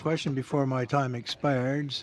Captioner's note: speaking French